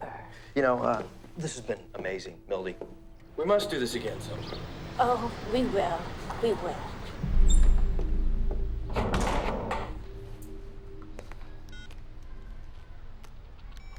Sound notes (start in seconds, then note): 11.2 cell phone beeps